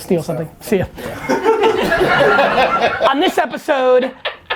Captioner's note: laughing